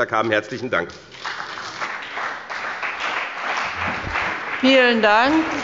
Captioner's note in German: Beifall bei dem BÜNDNIS 90/DIE GRÜNEN und der CDU